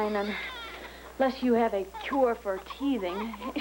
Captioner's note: starr cries